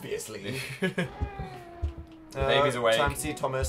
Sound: laughs; baby crying

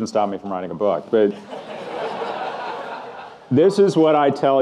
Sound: audience laughing

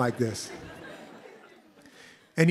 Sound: laughter

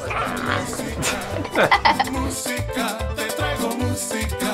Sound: laughing

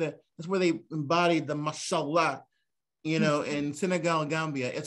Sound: non-english

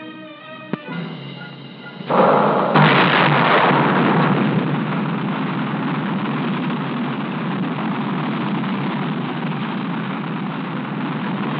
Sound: launch Sounds

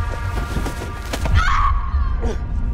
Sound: screams

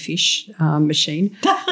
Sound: laughter

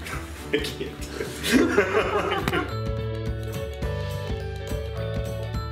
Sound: laughs; upbeat music

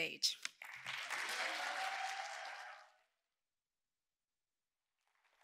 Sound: audience cheering

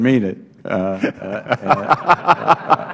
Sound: laughter

